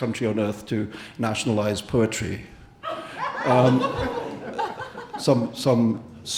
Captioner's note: audience laughing